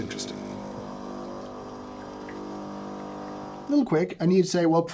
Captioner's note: machine sounds